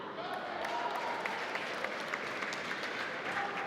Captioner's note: applause